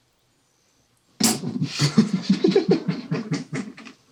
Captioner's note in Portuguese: ambos rindo